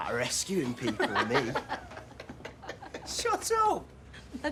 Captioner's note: they laugh